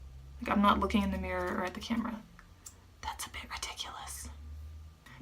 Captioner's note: whispering